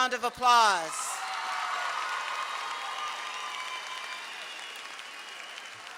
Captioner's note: audience clapping and cheering